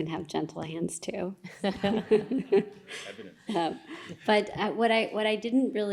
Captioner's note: laughter